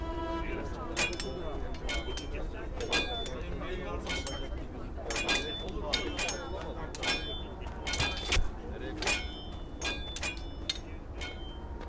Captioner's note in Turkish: Kılıç ve Uğultu Sesleri